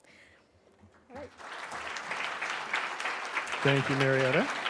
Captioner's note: audience clapping